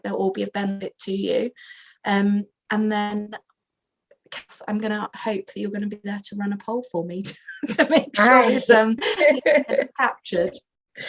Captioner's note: laughs